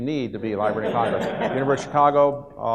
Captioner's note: audience laughs